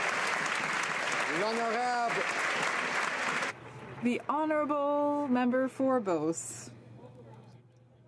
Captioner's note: some Applause